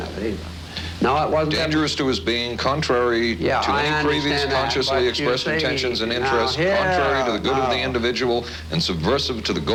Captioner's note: argues defensively